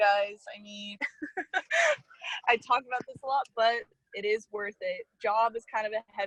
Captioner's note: laughs